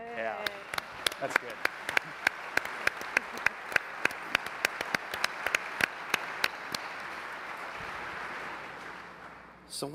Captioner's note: applause